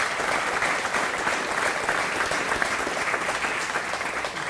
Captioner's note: applause